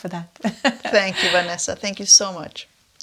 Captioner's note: laughs